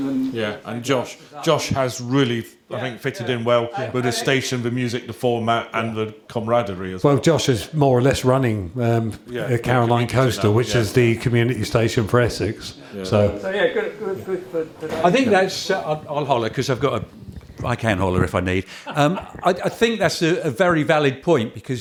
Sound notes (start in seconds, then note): 17.5 chuckles